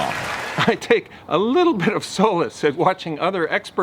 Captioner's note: chuckles